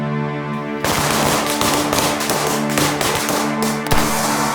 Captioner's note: dramatic orchestral music; guns firing